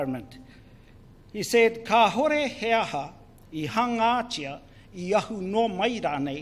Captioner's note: speaks in foreign language